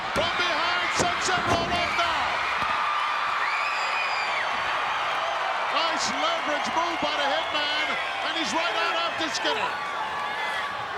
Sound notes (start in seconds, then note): 2.4 crowd cheering